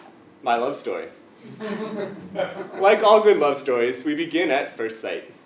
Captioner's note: laugh